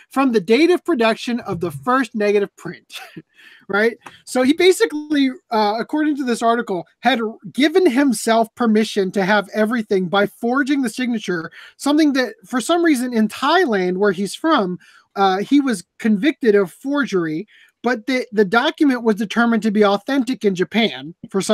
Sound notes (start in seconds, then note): 2.9 laughs